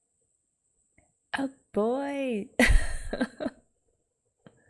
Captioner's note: laughs